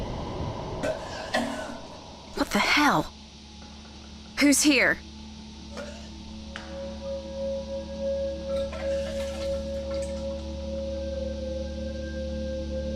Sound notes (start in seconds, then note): 0.9 sounds of someone vomiting; 5.7 sounds of vomiting continue through scene